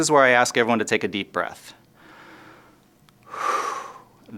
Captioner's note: breathes deeply